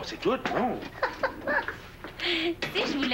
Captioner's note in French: Rire